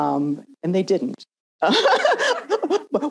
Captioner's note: laughs